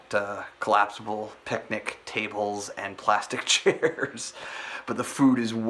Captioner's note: laughs